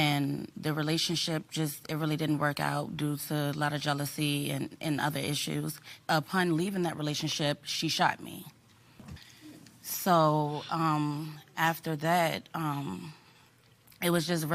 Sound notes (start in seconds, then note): none